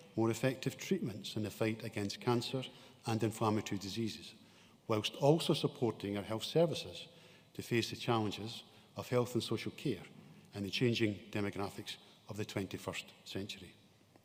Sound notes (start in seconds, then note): none